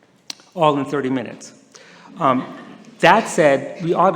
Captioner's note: some laughter